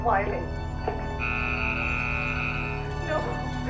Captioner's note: horn blaring